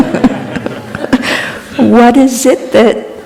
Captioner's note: laughter